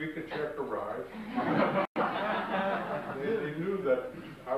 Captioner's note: audience laughs